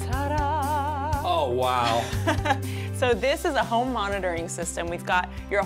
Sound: laughter

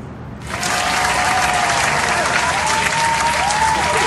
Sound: audience applause

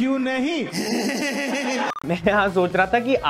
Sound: laughing

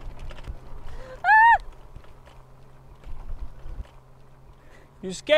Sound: screaming

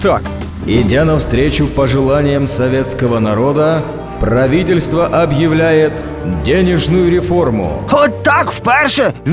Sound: voice from memories

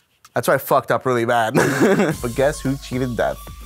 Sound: laughs

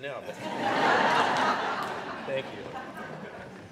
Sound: audience laughing

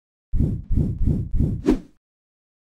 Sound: whooshing sounds

